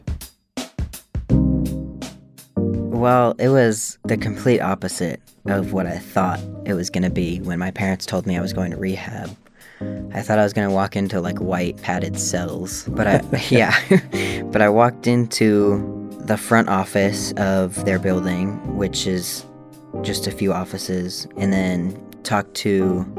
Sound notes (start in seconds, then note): 12.9 laughter